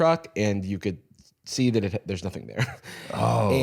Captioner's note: laughs